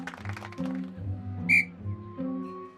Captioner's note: tweet